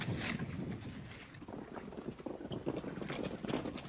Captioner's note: horses galloping